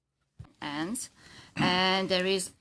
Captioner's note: speaking French